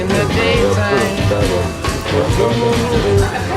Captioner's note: humming